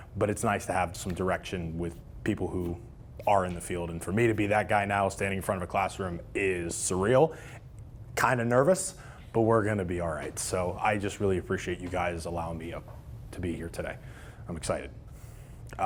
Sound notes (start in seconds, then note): none